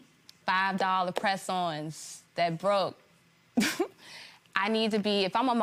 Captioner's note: laughs